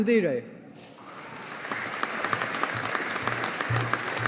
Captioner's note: audience applauding